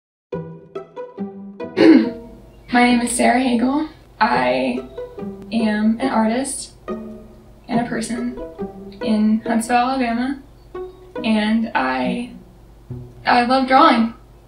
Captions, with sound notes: (playful music) (coughing) - My name is Sara Hagale. I am an artist and a person in Huntsville, Alabama, and I love drawing.